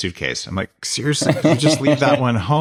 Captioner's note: laughs